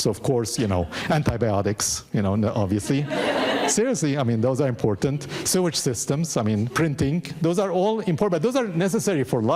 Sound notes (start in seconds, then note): 2.8 audience laughing